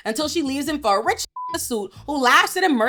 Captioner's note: beep